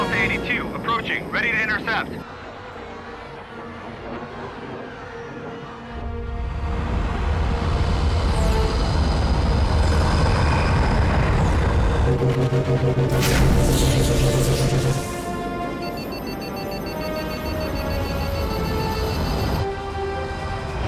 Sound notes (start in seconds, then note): 13.0 zap